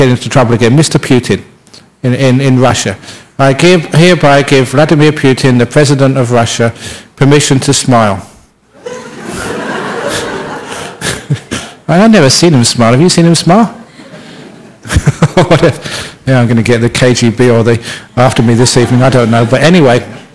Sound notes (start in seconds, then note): 8.7 laughter